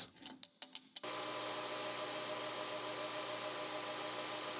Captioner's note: tool humming